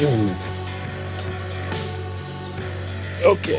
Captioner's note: metal clanging